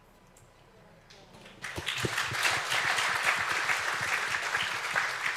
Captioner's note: audience clapping